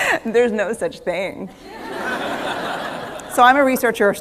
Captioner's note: laughter